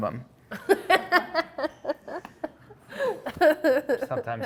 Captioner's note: laughing